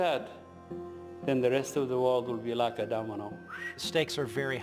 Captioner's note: whistles